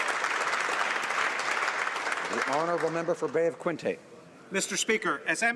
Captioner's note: applause